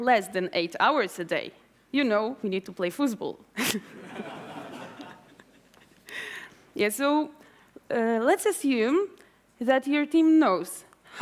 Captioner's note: laughter